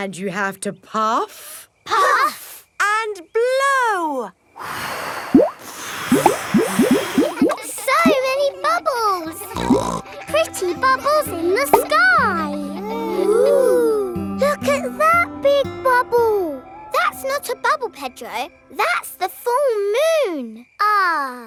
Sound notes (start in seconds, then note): 4.7 all blowing; 9.3 snorts